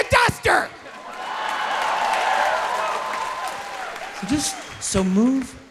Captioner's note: audience cheering